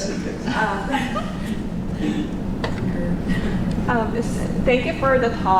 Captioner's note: giggles